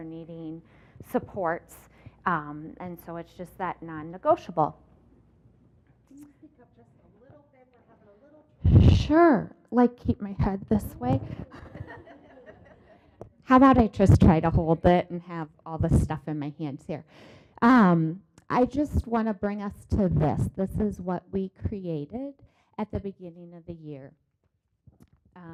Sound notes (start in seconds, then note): 11.2 laughter